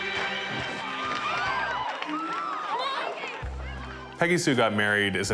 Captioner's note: crowd screaming